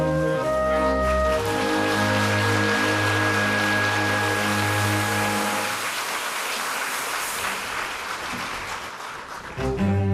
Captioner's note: applause